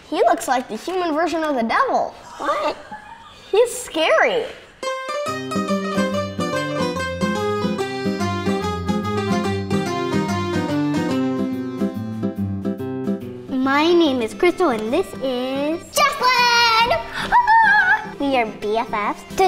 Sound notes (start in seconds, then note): 2.4 laughter; 5.1 upbeat music